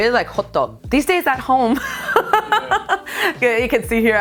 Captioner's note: laughs